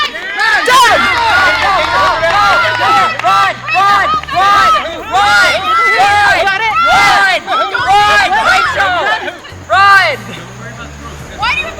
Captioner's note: entire screaming 'Run!'